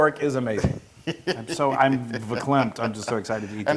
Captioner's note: laugh